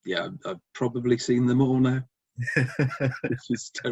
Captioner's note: laughs